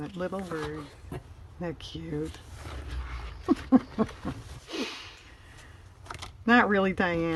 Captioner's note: laughs